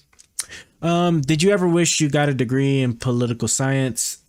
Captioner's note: none